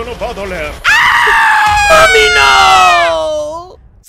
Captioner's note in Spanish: Gritos de doler